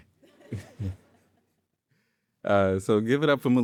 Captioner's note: audience laughing